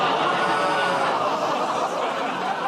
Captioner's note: laughter, groaning